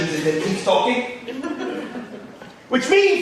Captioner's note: audience laughing